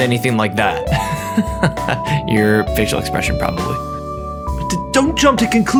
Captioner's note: laughter